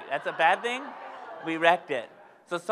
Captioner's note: audience laughs